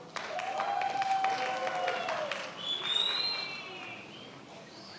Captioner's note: many applauding